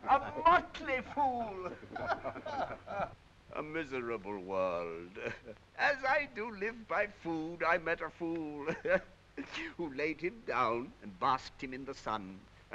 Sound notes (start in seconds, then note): 1.0 all laughing